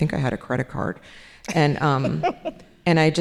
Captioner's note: laughing